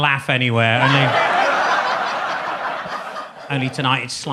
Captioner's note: audience laughs